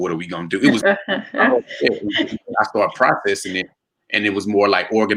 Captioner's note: murmurs